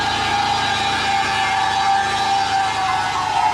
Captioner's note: tyres continue to squeal